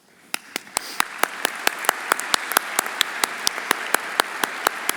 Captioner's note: everyone applauding